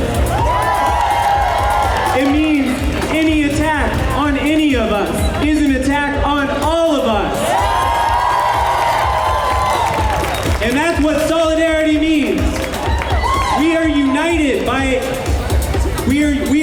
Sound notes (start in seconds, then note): 0.0 cheers; 6.9 cheers